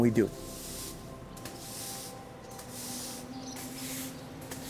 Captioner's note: broom sweeping floor